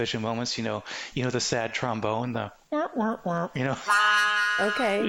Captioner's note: laughing